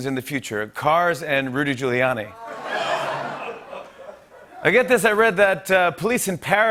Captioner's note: light laughter